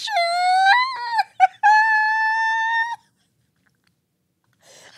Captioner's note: whining